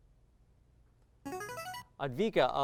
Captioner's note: signaling device tone